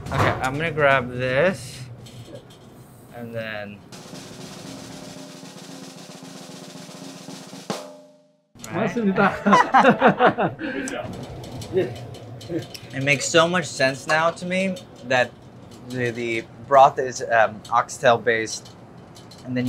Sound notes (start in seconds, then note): 3.8 drum roll music; 8.6 laugh; 8.8 speaking in Korean